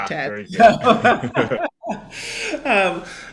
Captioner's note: laughing